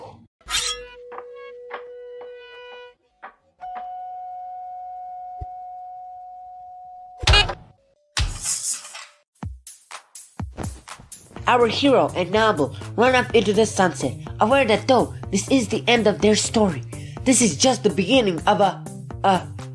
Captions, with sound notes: *shing* *bonk* Our hero and noble run off into the sunset, aware that though this is the end of their story, this is just the beginning of a uh